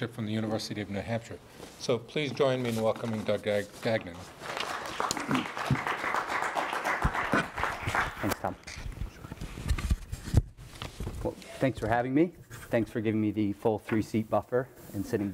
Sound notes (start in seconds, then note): 4.3 audience applauds